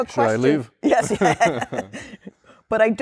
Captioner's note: laughter